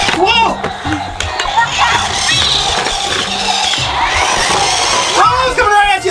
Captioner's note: high-pitched motors accelerating